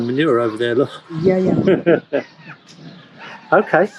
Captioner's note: interviewer chuckles